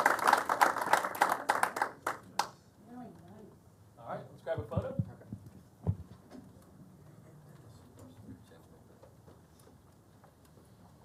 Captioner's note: applause